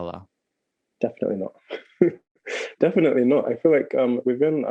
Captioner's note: laughing